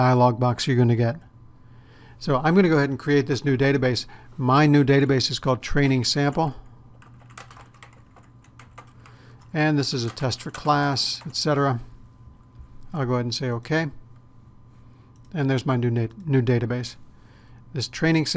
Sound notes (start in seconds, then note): 7.0 typing